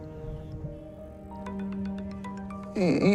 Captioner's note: phone ringing